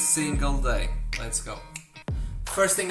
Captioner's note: snap finger